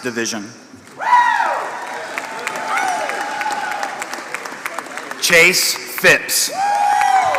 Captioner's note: applause